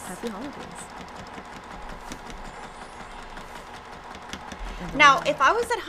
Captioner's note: sewing machine hums